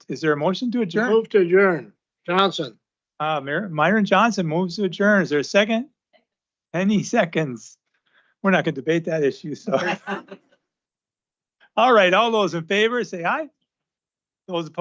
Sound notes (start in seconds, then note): 9.6 laughter